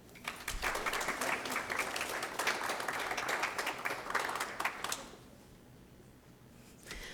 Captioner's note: applause